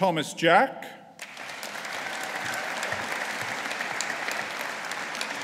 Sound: audience applauding

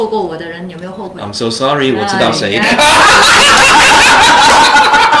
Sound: laughter

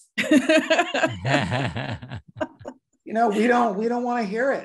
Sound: laugh

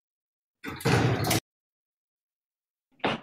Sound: door slamming

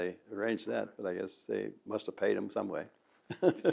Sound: laughs

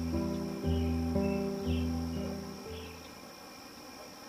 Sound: crickets chirping

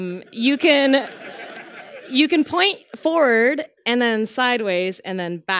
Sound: laughter

